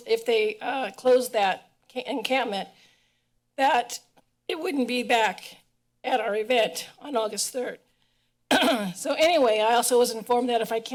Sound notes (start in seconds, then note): 8.5 clearing of throat